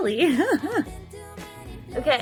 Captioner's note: giggles